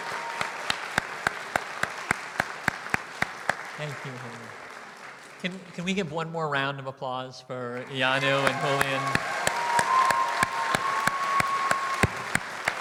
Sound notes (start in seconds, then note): 10.3 applause